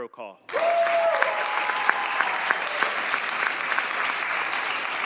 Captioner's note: audience applauding